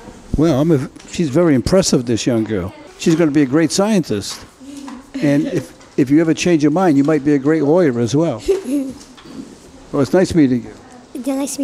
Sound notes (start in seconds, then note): 8.3 Lillian giggles